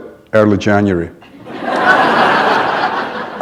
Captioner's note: laughter